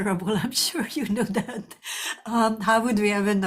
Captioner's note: chuckles